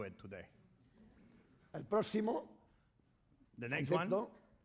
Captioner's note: speaking spanish